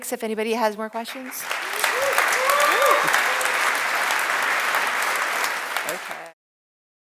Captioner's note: audience applauds; audience cheers